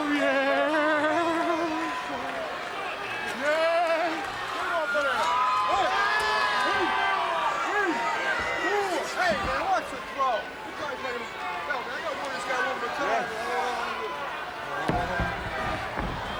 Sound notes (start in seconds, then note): 4.5 applause